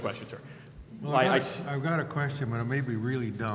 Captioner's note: voiceover